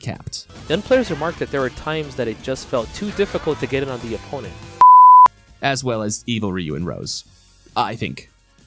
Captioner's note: film beep